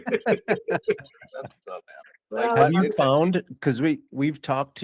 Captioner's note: laughing